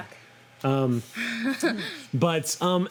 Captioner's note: laughs